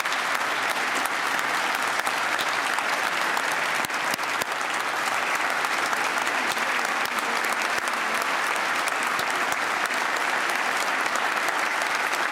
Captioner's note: applause